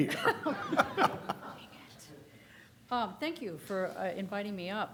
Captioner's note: laughter